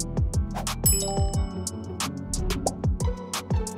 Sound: text chimes

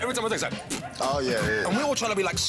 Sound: blows raspberries

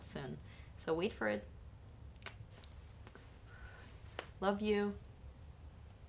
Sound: kisses

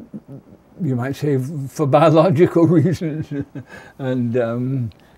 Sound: chuckle

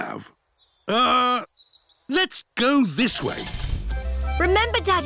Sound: starts engine

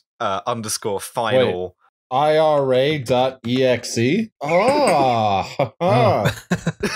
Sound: laughs in provo

